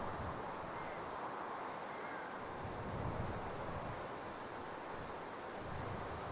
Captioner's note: strong wind blowing